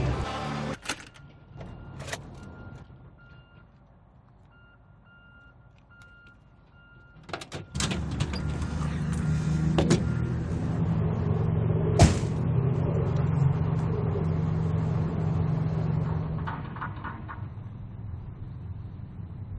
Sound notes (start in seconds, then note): 6.9 car door opens and closes